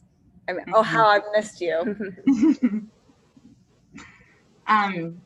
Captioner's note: everyone laughs